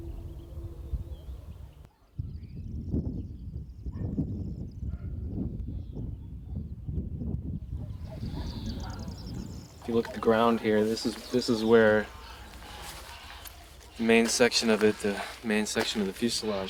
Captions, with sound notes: (birds chirping) (wind roaring) If you look at the ground here, this is where the main section of it, the main section of the fuselage crashed.